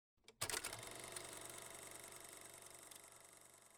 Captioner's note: mechanical whir of a camera